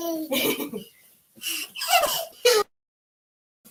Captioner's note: laughing